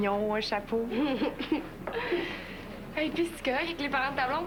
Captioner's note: Rire